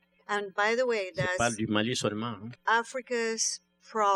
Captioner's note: speaking french